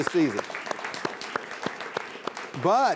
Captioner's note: all applauding